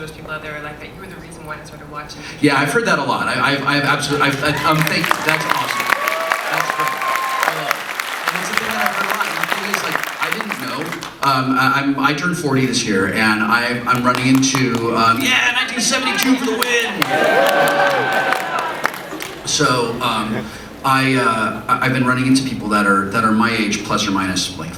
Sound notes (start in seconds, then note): 4.0 crowd starts applauding; 16.1 person claps; 17.4 crowd cheers